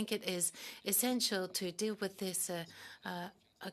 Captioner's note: speaking French